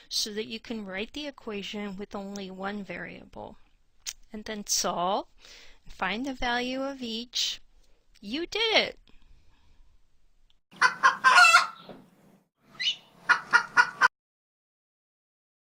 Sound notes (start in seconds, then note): 9.2 rooster Crowing